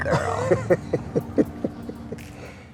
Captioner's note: laughs